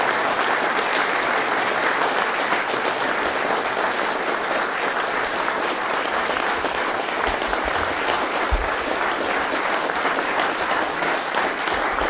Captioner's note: applause